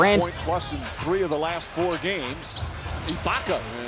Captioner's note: announcer speaking